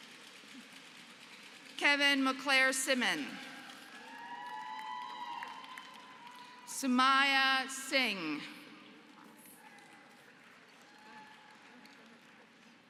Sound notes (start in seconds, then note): 3.4 applause; 9.0 applause